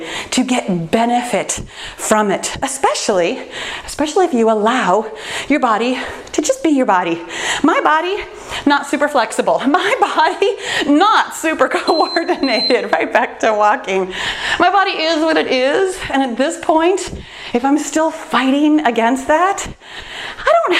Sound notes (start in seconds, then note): 11.8 timer beeps